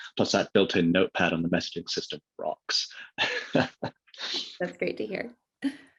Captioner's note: laughs